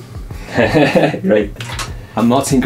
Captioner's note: laugh